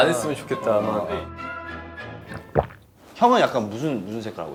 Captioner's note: sipping